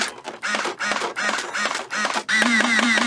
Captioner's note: slow mechanical pew pew